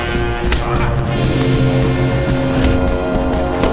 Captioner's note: grunting